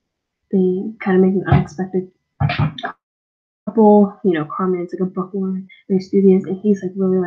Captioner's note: bonk